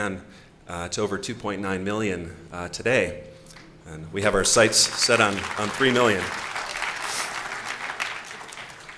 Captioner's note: applause